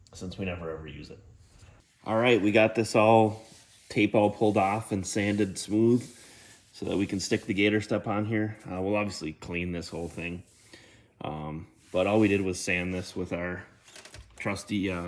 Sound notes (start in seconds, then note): 1.7 graphics swishing; 5.9 hand swishing